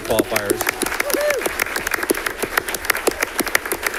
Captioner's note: audience clapping